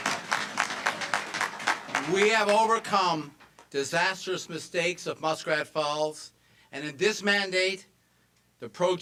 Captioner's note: cheers and applause